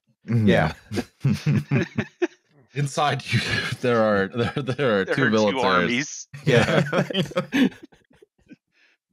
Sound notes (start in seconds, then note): 0.8 laughter; 3.6 laughing; 6.4 laughs; 6.4 laughter